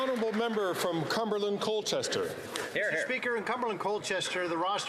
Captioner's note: applause